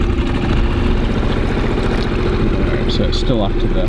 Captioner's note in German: Motor brummt schneller